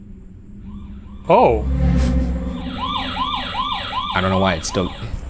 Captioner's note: motion alarm blaring